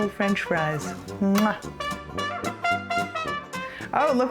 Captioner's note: lip smacking